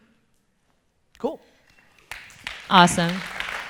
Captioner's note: audience applause